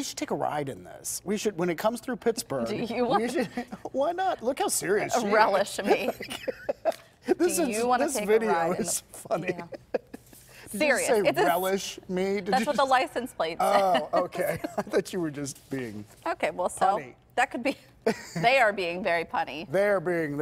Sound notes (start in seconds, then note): 13.7 laughter